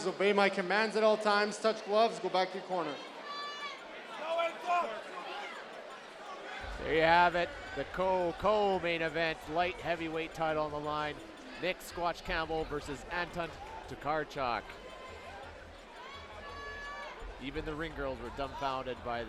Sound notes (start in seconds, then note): 3.5 audience yelling and jeering